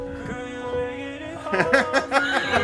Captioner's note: laughs